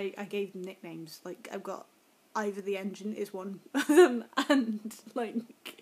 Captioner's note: laughs